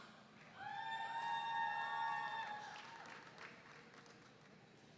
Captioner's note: audience cheering